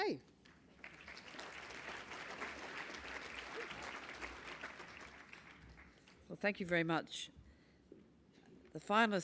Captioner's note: applause